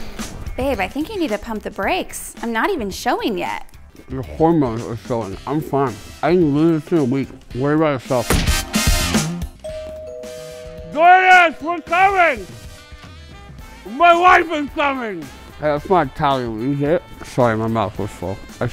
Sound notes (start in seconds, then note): 9.6 doorbell